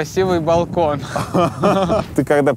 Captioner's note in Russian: смеются